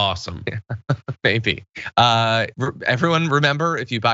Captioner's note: laugh